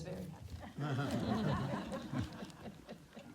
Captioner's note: laughter